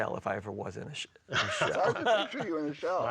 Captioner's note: laughing